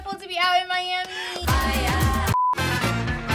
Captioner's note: upbeat music; screen beeps